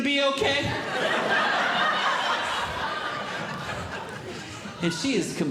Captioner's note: audience Laughing